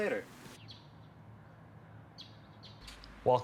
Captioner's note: birds chirping